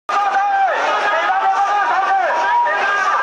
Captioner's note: shouting